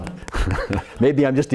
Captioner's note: laughs